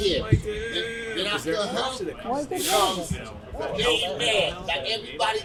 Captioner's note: overlapping chattering